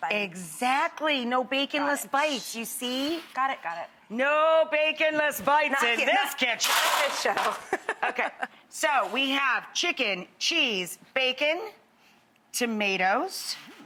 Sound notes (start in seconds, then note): 6.5 pans clatter